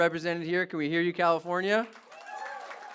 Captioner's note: applause